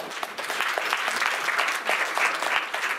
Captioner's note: clapping